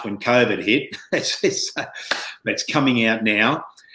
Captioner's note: chuckles